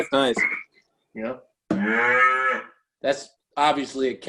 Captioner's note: cow moos